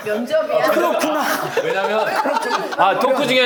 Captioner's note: forcing laughter